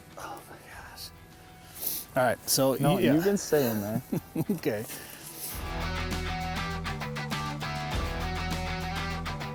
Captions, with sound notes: - Oh my gosh. All right, so. - You can stay in there. - (chuckles) Okay.